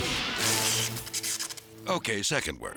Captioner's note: electricity buzzing